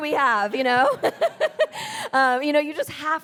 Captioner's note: laughing; audience laughs